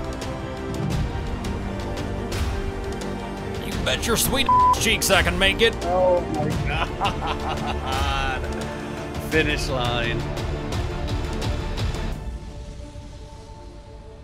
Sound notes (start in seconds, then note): 6.0 laughs